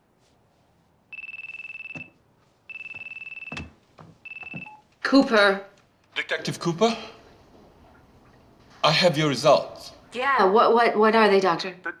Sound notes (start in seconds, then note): 2.6 phone rings